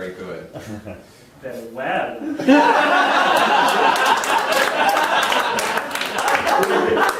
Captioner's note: audience laughing